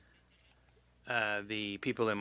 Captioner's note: speaking French